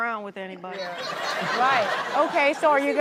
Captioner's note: audience laughs